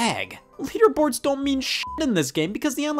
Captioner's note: beep